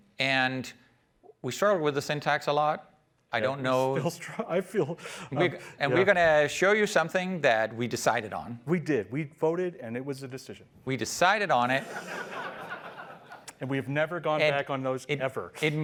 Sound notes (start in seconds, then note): 11.8 laughter